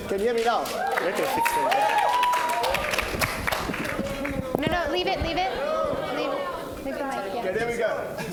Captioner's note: applause